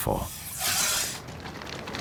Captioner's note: snake hisses